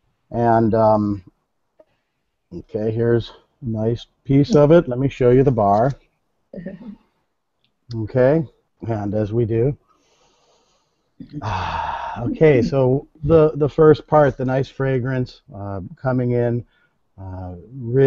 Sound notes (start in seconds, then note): 11.4 inhales deeply